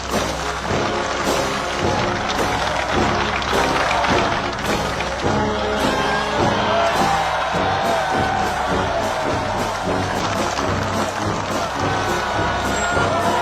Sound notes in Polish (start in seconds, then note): 7.0 Aplauz